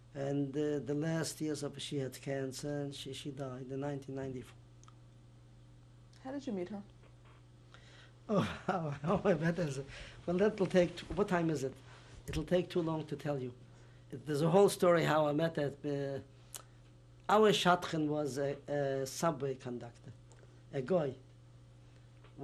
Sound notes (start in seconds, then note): 8.3 laughs